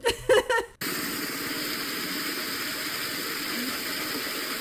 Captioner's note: water flowing